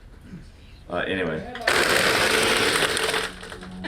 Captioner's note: blender Grinding